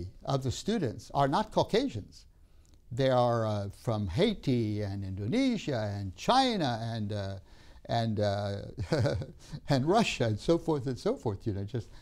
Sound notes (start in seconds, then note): 8.8 laughs